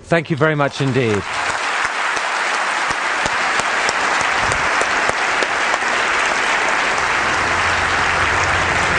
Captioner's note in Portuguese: Aplausos